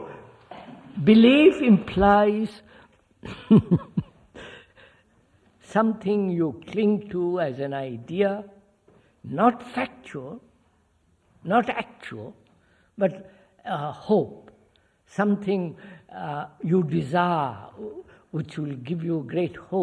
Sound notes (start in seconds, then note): 3.2 laughs